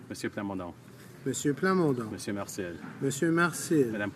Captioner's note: speaking in french